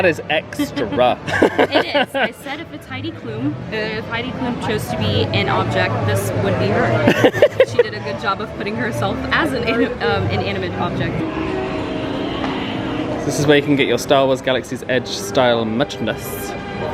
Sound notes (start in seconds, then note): 0.6 both laugh; 7.0 laughs